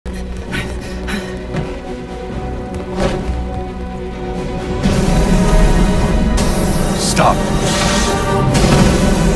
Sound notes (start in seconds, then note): 0.3 dramatic music; 2.8 person panting; 3.7 Batman swooshes; 4.7 flames roaring; 5.7 dramatic music continues; 7.5 flames roaring